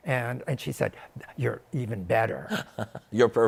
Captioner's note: laughs